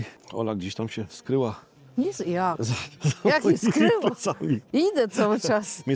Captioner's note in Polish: śmiech